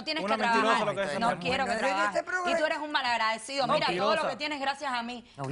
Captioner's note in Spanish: Hablan al unísono